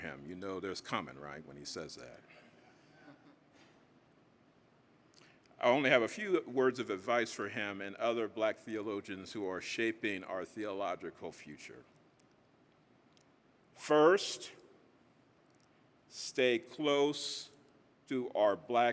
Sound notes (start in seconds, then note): 2.9 audience chuckling